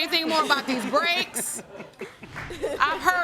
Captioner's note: all chuckling